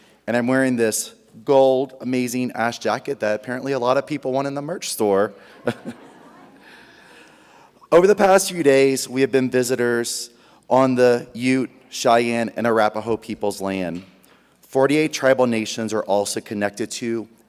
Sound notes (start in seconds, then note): 5.4 audience laughs; 5.6 laughs